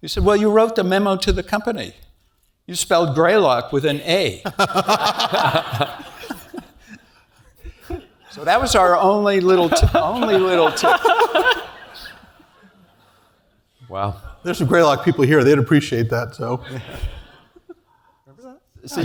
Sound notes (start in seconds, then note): 4.9 laugh